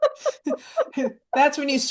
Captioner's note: laughs